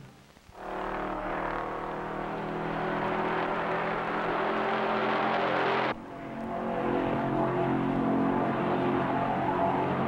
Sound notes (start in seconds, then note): 0.6 engine rumbling